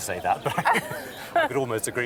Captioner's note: they laugh